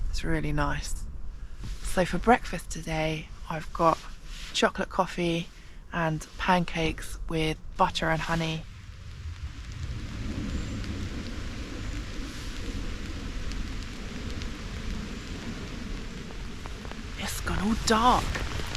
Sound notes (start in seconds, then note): 10.1 light rain